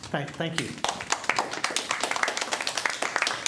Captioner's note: applause